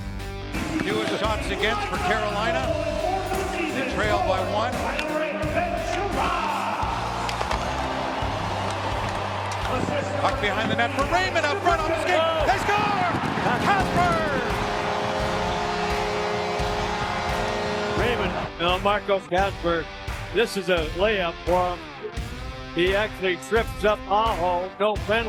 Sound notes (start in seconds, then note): 13.8 goal horn